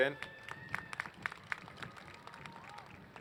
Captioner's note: applause